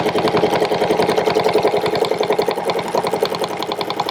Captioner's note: machine whirring